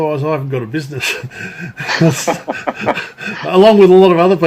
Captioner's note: laughing